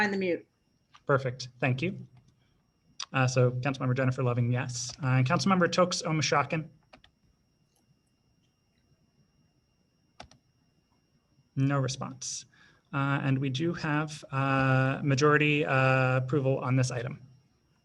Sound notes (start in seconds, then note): 10.6 silence